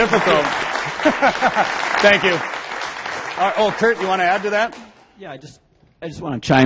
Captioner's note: applause